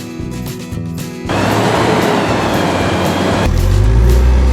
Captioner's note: forklift Engine Sound; crawler Crane Engine Sound